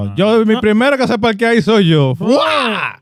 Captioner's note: speaking In Foreign Language